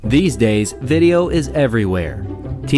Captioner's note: voiceover